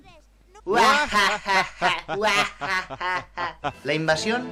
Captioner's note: Action Mask laugh intensifies